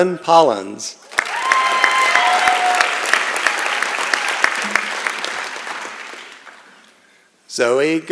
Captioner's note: applause and Cheering